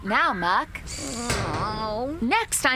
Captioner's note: whining